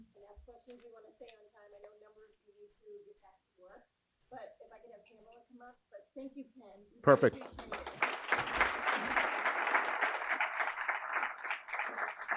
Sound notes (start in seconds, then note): 7.3 audience applauding